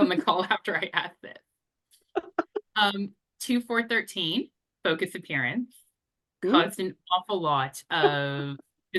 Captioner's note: laughs